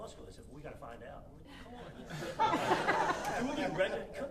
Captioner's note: audience laughing